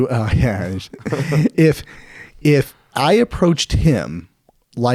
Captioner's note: laughing